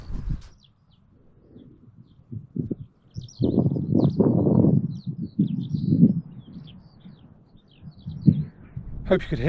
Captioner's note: faint jangly birdsong